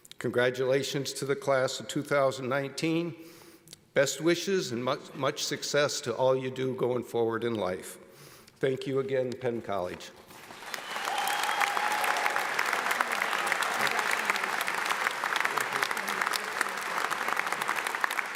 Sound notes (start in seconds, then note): 10.3 audience applauds